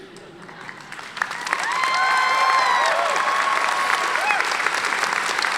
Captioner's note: audience applauding